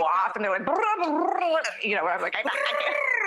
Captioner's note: trilling tongue